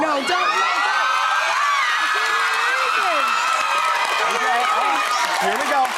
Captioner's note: audience cheering